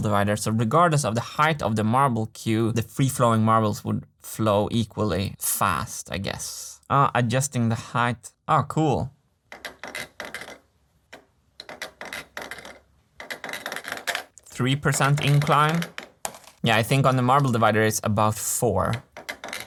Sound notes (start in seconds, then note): 9.5 marble rolling; 14.8 marble drops